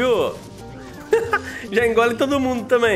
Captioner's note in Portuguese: risos